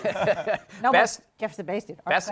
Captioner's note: chuckles